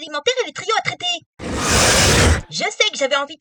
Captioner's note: growl